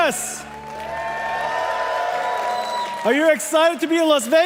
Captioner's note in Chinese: Applause; 掌聲